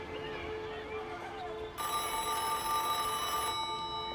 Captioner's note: phone ringing